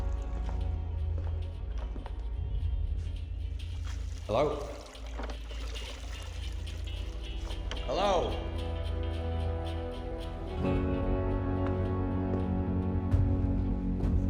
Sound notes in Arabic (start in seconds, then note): 0.2 موسيقى مكتومة في سماعات الرأس; 5.0 تدفق الماء; 9.1 موسيقى مكتومة في سماعات الرأس